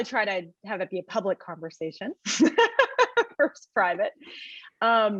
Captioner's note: laughs